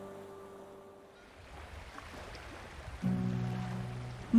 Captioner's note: waves lapping gently